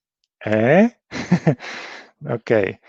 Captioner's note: laughs